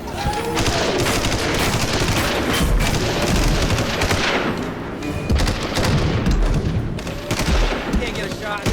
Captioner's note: gunshot